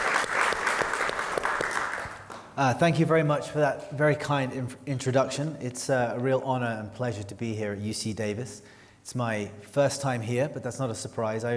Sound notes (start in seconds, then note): 0.0 applause